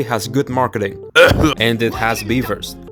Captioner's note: cough